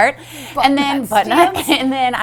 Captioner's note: laughs